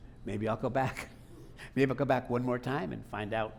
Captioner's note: laughing